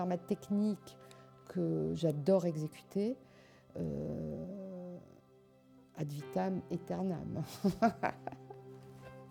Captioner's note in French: rires